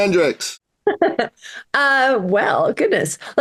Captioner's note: laughs